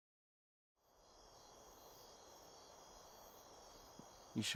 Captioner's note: insects buzzing